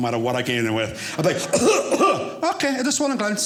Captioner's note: coughs